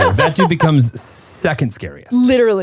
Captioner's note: laughing